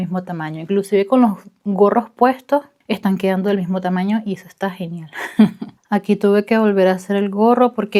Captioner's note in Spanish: risas